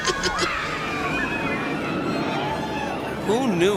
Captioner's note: laughing; ride whirring